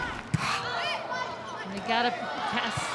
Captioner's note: ball thumping